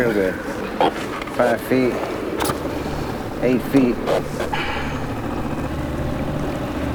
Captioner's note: outboard motor puttering